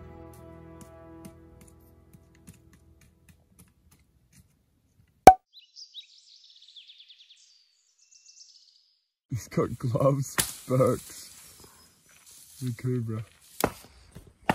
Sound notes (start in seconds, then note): 5.6 birds chirping